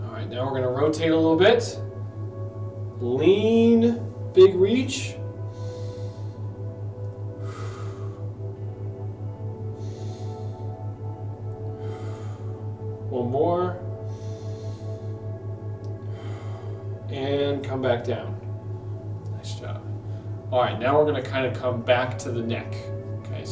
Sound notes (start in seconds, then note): 5.3 inhales; 7.5 exhales; 9.3 inhales; 11.8 exhales; 13.8 inhales; 16.2 exhales